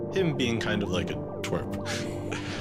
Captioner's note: chuckles